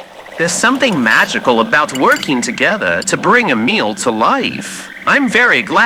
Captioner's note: scraping plate with fork fx